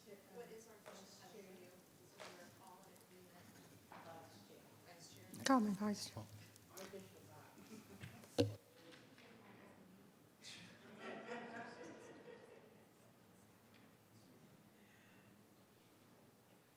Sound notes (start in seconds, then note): 7.9 chuckling; 10.8 attendees laughing; 12.4 speaking faintly